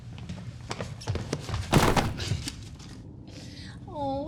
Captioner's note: books thudding